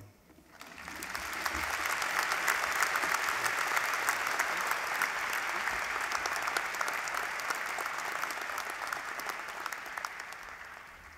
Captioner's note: applause